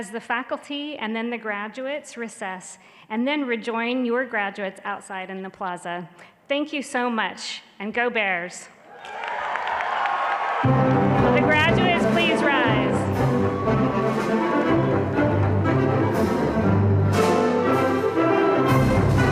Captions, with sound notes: faculty and then the graduates recess, and then rejoin your graduates outside in the plaza. Thank you so much, and go Bears! Will the graduates please rise? (audience cheering and clapping)